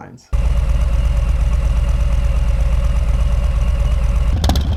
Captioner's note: engine roaring